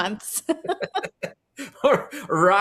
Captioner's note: laugh